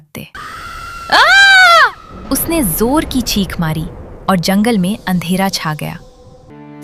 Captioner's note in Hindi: चीखने की आवाज़